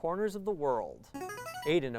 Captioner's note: ringing